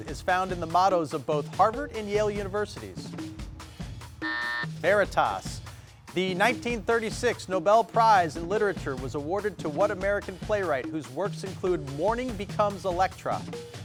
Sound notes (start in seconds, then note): 4.2 buzzer rings